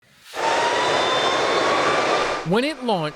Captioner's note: airplane engine sound